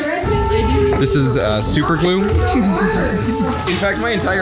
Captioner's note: giggling